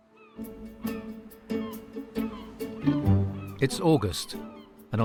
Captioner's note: seagulls crying; light music